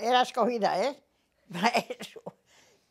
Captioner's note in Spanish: ríe